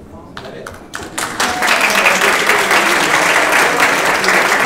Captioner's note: applauding